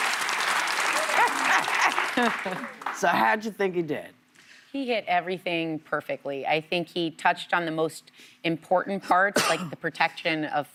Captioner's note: cheers and applause